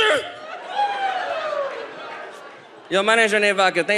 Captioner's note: audience laughs